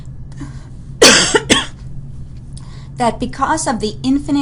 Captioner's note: coughs